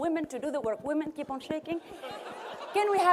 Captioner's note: laughter